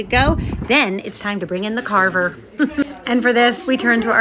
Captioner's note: laughs